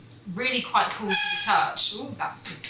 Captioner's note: the tin screeches against the worktop